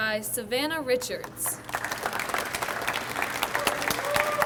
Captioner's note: audience applauds